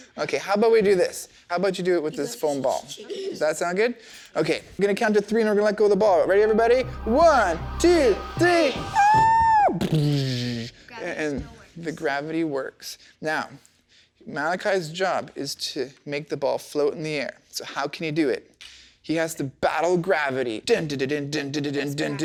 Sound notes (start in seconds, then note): 8.9 squealing; 8.9 imitating explosion